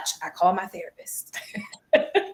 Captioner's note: laughter